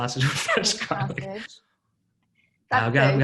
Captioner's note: laughing